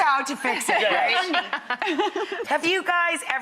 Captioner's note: laughs